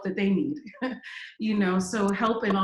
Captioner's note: laughs